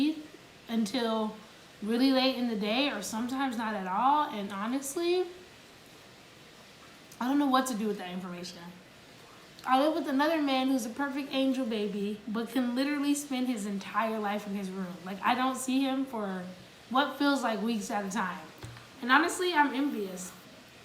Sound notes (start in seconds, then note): none